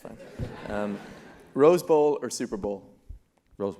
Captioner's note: laugh